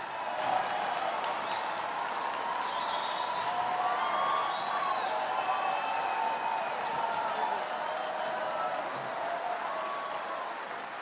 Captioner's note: cheering and applause